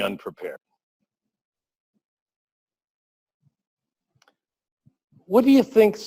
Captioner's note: pause